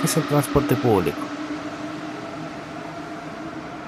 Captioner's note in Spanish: sonido de tren Alstom NS16